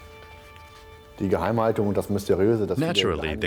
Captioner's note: speaking in German